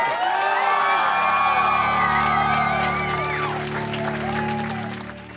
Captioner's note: cheering and applauding